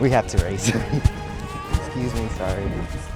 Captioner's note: baby fusses; dramatic music continues